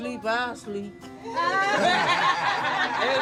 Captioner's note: laughing